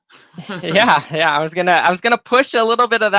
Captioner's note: chuckling